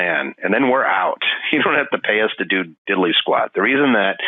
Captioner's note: laughing